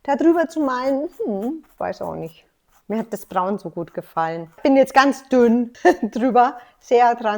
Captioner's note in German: lacht